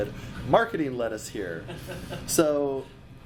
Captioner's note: laughs